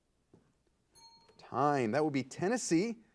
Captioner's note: timer beeping